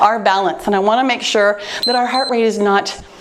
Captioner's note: timer beeps